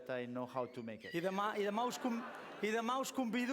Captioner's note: non-english speech